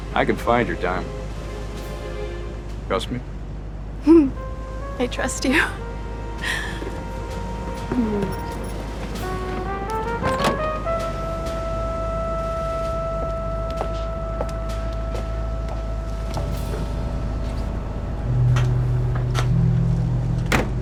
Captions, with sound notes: I could find your diamond. Trust me? (giggling) - I trust you. (dramatic music)